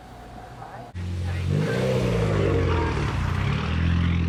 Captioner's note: engine revving